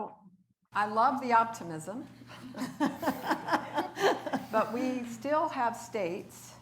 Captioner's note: laughs